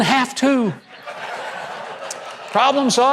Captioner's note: audience chuckles